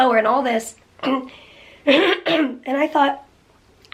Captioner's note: clearing throat